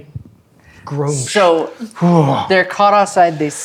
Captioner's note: exhales thankfully